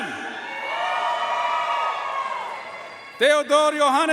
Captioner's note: audience cheering and applauding